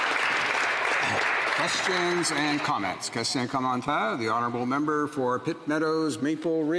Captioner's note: applause